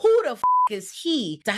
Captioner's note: beep